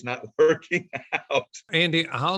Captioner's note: laughs